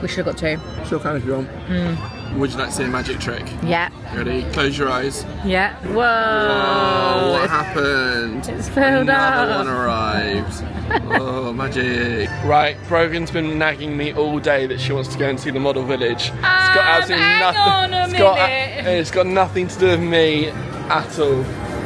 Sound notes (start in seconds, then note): 9.6 chuckling; 21.6 bright music